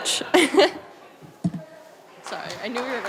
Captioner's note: applause